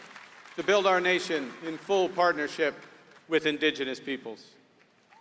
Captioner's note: applause